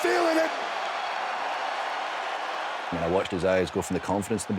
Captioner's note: crowd cheering